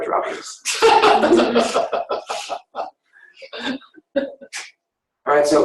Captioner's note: laughing